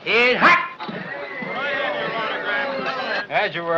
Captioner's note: whistling, chattering